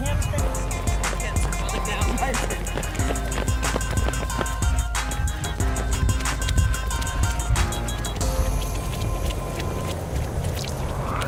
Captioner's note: running noises